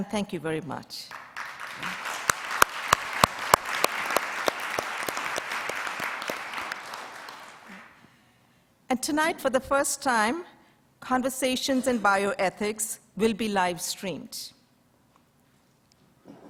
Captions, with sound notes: Fran, thank you very much. (audience applauds) And tonight, for the first time, Conversations in Bioethics will be live streamed.